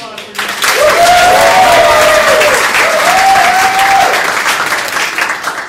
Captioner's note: audience cheering